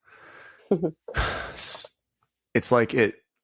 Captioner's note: chuckling